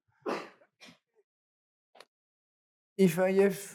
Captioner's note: student coughs